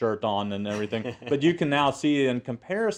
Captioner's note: laugh